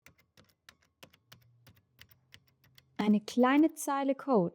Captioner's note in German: Tippen auf der Tastatur